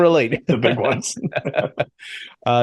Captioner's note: laughs